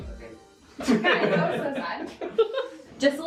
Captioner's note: all laughing